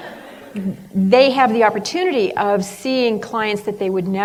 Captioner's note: laughter